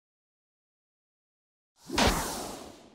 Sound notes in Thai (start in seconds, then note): 1.8 เสียงเอฟเฟกต์